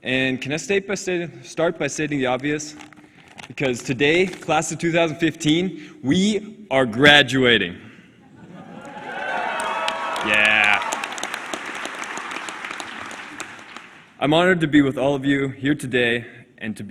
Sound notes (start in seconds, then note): 8.5 cheering